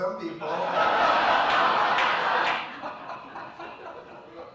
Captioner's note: audience laughs